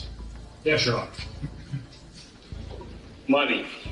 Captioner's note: things rustling